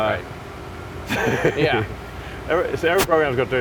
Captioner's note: Elon laughs